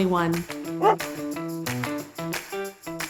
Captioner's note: dog barks; upbeat music